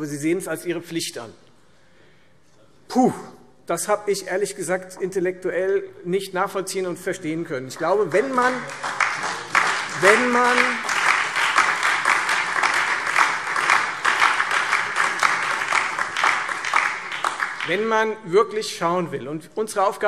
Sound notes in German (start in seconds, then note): 7.7 Beifall Freie Demokraten, DIE LINKE und vereinzelt SPD